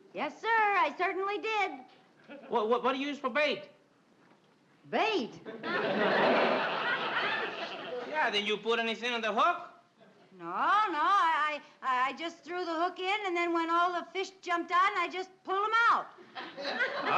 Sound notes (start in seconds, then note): 5.6 audience laughing